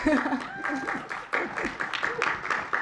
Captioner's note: applause